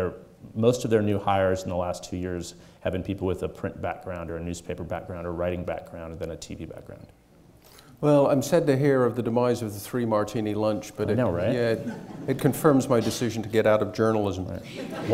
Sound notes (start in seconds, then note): 11.4 audience chuckles